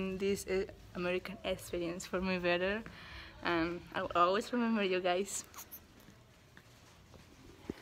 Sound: kisses

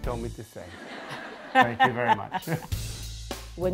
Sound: laughs

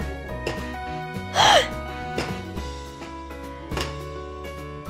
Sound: Madelaine exhales

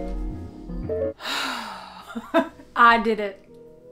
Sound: deep exhaling

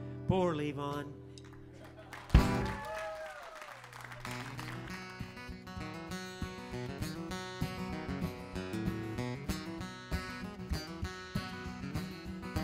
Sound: applause

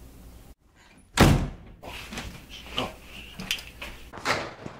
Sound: door banging

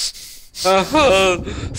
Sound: pathetic moaning

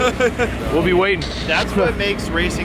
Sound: static sound

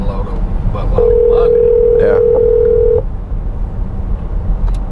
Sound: phone rings

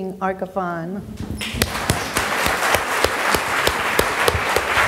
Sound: audience applauds

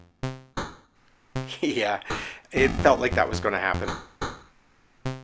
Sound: laughs

